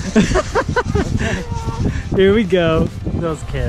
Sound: laughs

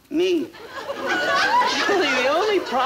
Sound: audience laughing

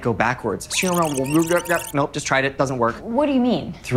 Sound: jim attempts to speak backwards

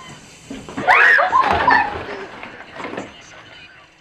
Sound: ashley screams

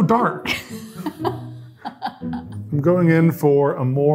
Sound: laughing

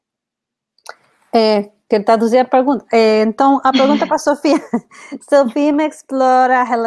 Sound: speaks portuguese

